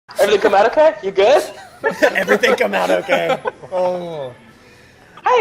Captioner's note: laughter